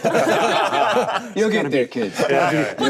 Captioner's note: laughing